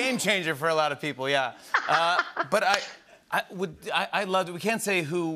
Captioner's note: laughs